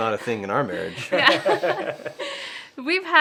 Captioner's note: laughing